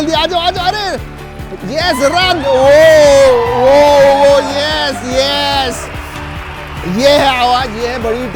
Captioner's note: cheers